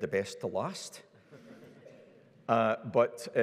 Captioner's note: audience laughs